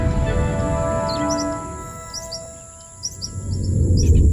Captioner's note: birds chirping